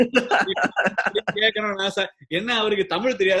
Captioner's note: laughs